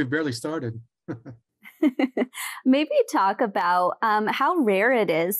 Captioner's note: chuckling